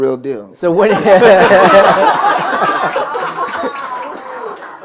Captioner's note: laughter